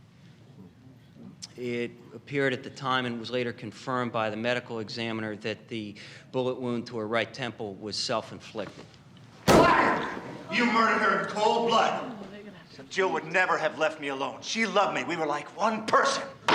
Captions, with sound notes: It appeared at the time and was later confirmed by the medical examiner that the bullet wound to her right temple was self-inflicted. (fist slams) - Liar! You murdered her in cold blood! Jill would never have left me alone. She loved me, we were like one person.